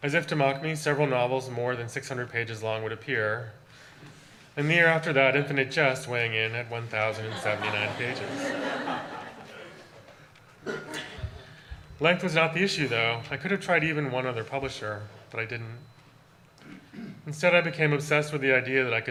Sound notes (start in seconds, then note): 7.1 audience laughter